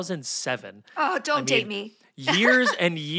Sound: Felicia laughs

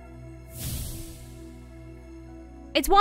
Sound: magic wooshes

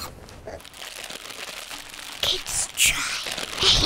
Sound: crackling

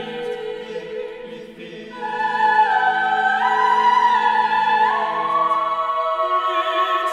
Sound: lower Voices

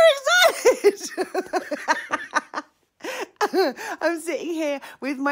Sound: laughs loudly

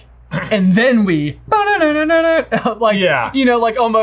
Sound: imitates piano playing; chuckles

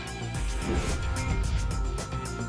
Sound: whoosh

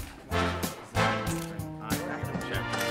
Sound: camera clicking; upbeat music

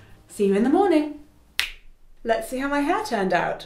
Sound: snaps

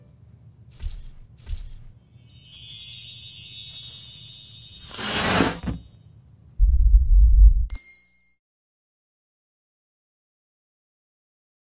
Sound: stomp; enlarging sound

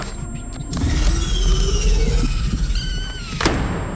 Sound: roars; door slam

